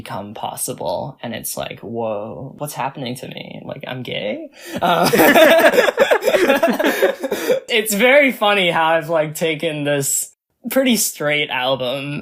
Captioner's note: both laugh